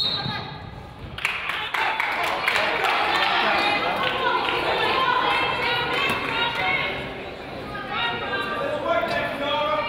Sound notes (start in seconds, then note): 0.0 whistle blows; 1.2 crowd applauds